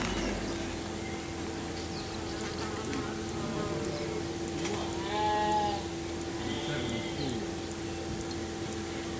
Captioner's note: fly buzzing around. Sheep baaaa-ing. Etc